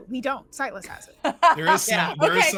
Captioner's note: laughing